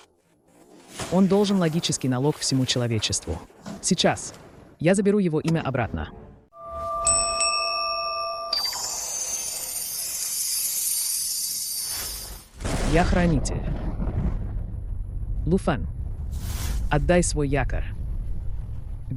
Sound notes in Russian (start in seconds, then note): 9.1 колокольчик